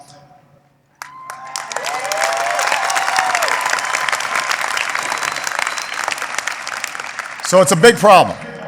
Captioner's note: applause